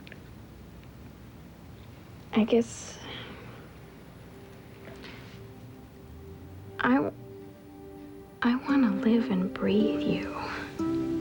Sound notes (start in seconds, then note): none